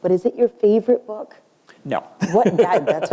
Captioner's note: chuckle